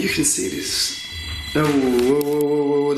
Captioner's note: alarm ringing